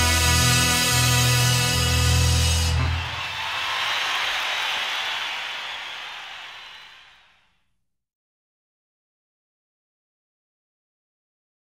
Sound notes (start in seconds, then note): 1.8 audience cheers; 2.3 audience applauds